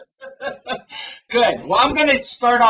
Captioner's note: laughter